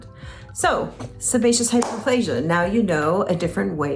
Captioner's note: hands clap